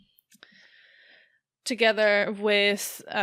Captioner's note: none